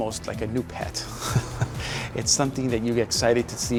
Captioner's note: chuckles